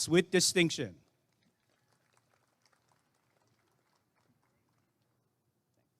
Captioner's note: applause and cheering